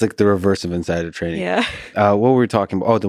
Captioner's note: chuckles